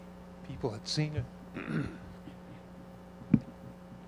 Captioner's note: clears throat